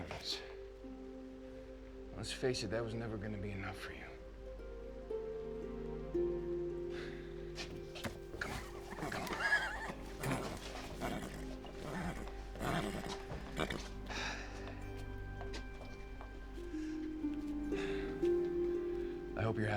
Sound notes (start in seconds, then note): 8.0 horse nickers; 16.5 sam sighs